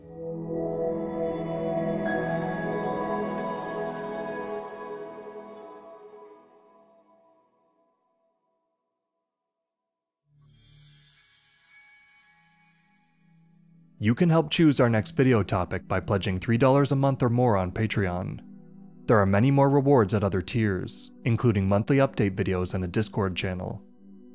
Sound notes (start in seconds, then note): 0.0 synth tone, chime hit rings out; 10.5 light chimes